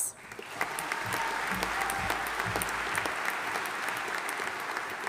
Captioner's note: audience applauding